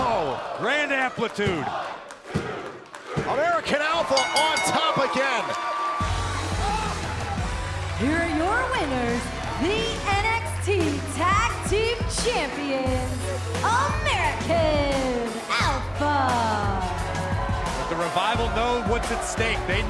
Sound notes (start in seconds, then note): 4.1 bell ringing